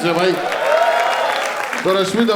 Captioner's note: crowd applauding